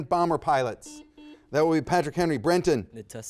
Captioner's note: buzzer dings